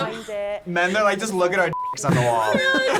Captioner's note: beep